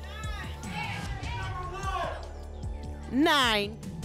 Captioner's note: audience shouting numbers